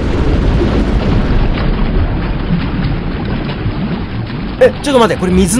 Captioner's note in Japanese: 水音：ｺﾞﾎﾞｺﾞﾎﾞｺﾞﾎﾞ…